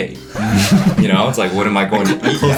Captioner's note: everyone starts laughing